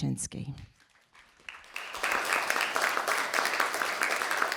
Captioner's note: audience clapping